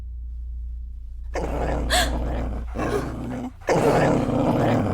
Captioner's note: dog growling